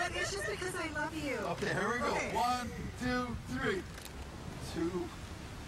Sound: laughter

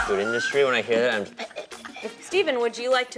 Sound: laughing; choking

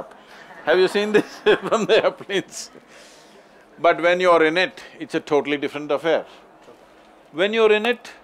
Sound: laughs

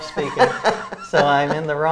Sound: laughs

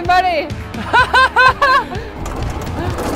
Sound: laughing

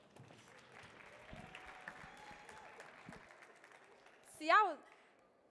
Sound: audience clapping

